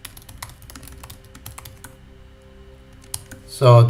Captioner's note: typing